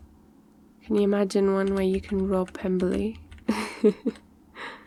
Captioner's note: laughs